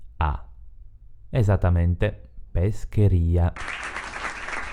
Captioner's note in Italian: Applauso